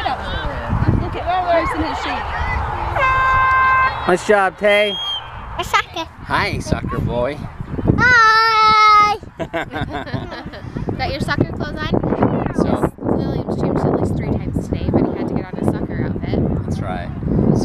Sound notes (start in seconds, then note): 2.9 air horn blasts; 9.3 laughter; 13.5 muffled by wind